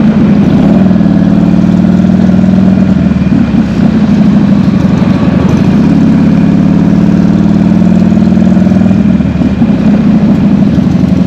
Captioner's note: engine revving